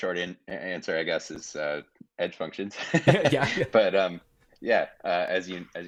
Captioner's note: laughing